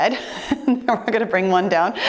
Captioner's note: giggling